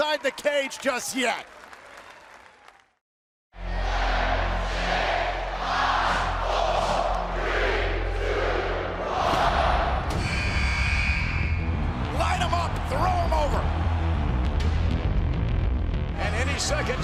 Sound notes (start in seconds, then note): 3.6 fans chanting; 11.2 buzzer